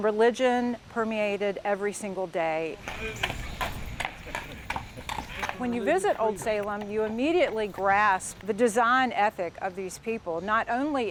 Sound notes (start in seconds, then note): 2.8 hooves clomping